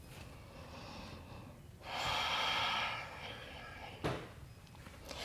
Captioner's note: deep breathing